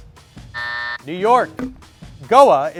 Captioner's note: timer buzzes